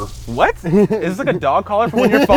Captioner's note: laughs